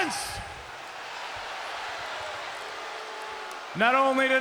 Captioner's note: audience booing